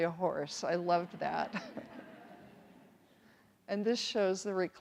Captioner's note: everyone chuckles